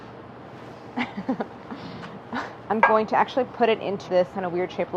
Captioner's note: laughs